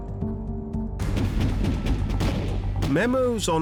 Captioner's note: gunfire